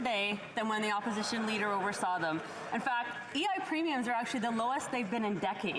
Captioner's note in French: voix de l'interprète